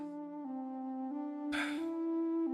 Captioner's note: sigh